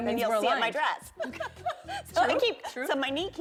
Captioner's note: laughter